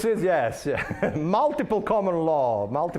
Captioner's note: laughing